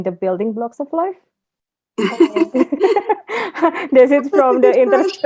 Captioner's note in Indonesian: tertawa